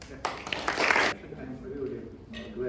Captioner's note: applause